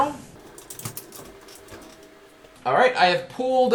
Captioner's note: chair scrapping